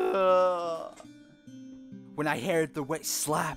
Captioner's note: sobbing